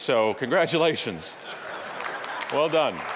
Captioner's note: audience laughing